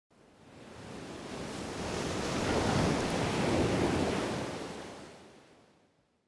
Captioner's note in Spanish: olas rompiendo